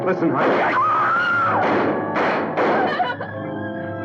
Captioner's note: screaming; gun firing